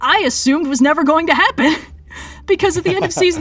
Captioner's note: laughs